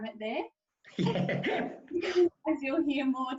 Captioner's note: laughs loudly